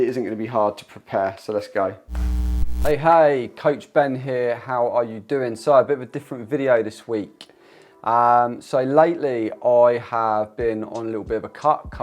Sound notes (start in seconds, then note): 2.1 frame buzzes